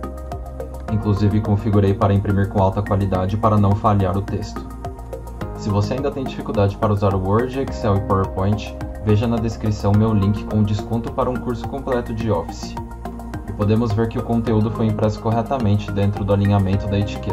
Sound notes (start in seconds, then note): 12.3 portuguese Language